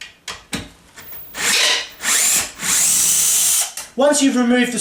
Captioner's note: drilling noise